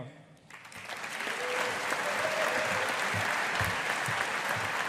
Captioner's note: audience applauding